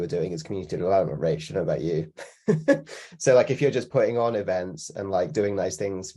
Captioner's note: chuckles